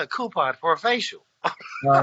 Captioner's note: laughs